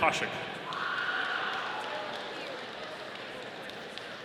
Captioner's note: audience applauding